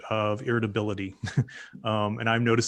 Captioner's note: laughs